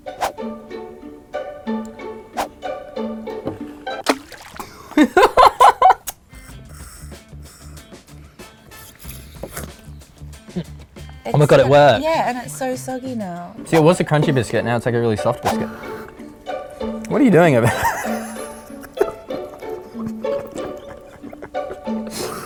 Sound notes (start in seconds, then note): 0.0 cheeky music; 4.7 laughs; 21.2 laughs